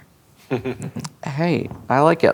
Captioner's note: chuckles